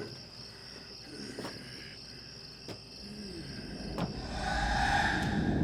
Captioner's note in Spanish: Rogers resollando